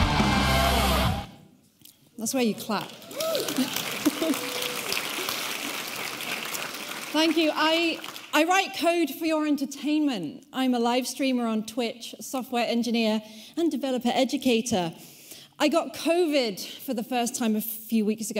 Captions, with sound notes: That's where you clap. (audience applauding) Thank you. I write code for your entertainment. I'm a live streamer on Twitch, software engineer and developer educator. I got COVID for the first time a few weeks ago